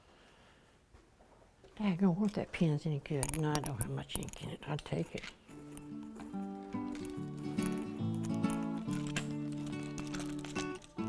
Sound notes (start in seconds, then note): 2.3 Mary mumbling quietly